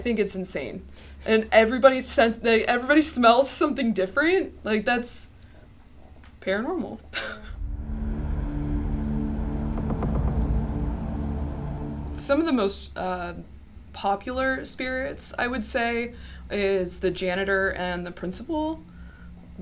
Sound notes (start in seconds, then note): 7.0 chuckles; 7.5 ominous music